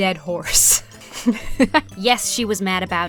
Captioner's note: laughs